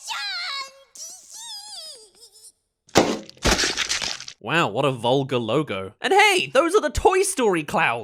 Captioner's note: Illumination!! *Pop* *Splatter